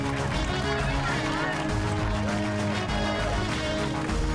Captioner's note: cheers and applause